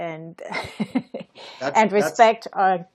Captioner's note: laughs